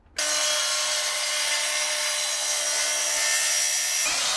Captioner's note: saw grinding